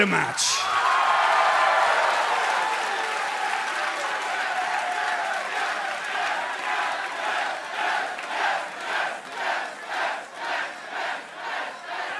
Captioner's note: crowd cheering